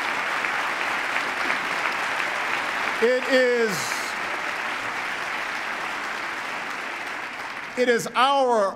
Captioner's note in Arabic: تصفيق